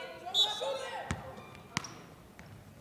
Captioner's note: referee whistling; dribbling